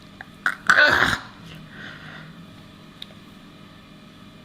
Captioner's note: grunts